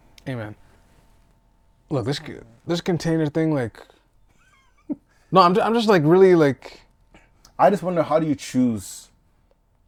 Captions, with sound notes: - Hey man. Look, this container thing, (laughing) no I'm just like really like-- - I just wonder how do you choose,